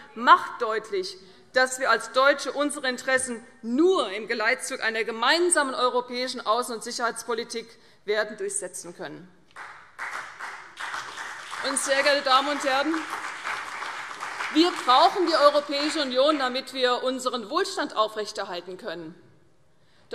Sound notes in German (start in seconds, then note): 9.6 Beifall CDU und BÜNDNIS 90/DIE GRÜNEN